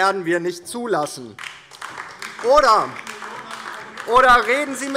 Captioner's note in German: Beifall DIE LINKE - Zuruf AfD